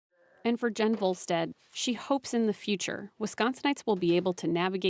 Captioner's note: voice-over